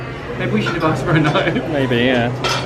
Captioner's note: laughing